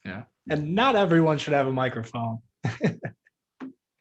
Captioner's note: laughing